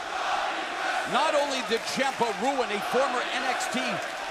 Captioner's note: crowd cheering